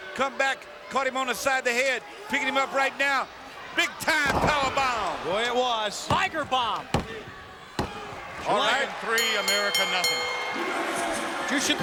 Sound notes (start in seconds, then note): 5.9 mat slapping; 6.0 mat thumping; 9.1 bell ringing